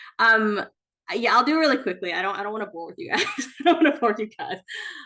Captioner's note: chuckles